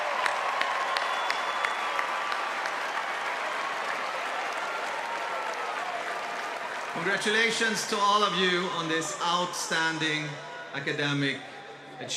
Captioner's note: cheers and applause